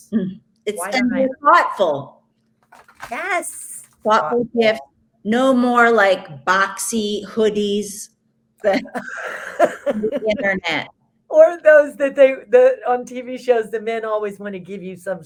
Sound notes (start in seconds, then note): 8.6 both laughs